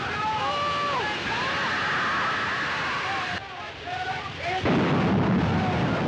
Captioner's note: men screaming; water splashing; men screaming; steam hissing; explosion